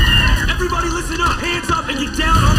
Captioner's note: screaming